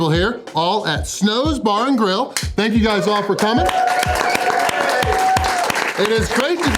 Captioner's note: crowd cheering